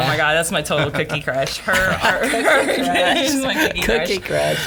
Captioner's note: laughing